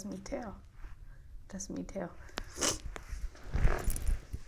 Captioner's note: sniffs